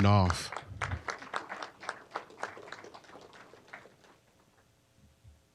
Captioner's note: applause